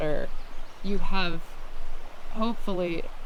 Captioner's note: water gurgles